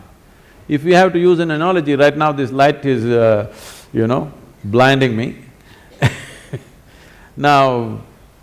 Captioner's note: laughs